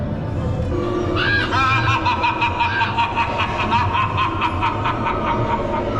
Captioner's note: cackles evilly